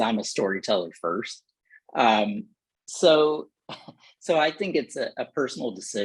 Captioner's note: laughter